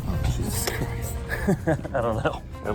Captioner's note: chuckes